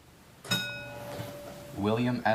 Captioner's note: bell dings